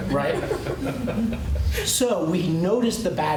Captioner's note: laughter